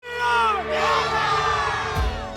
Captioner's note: yelling